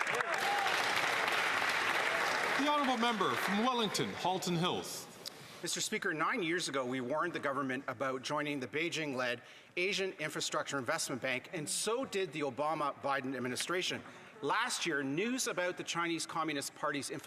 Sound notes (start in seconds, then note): 4.2 some Applause